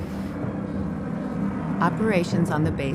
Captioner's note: plane engines roaring